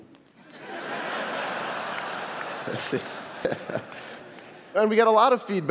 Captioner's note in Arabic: ضحك